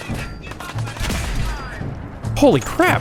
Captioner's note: blam!